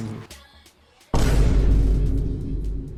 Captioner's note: Vine Boom SFX